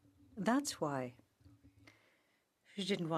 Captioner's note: speaking French